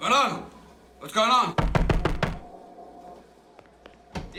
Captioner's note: banging